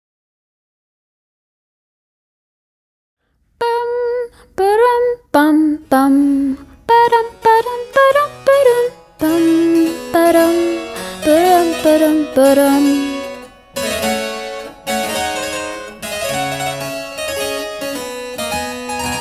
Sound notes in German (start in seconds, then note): 2.0 summt